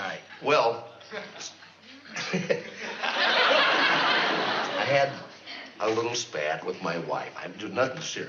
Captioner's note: laughs